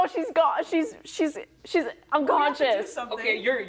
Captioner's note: stammering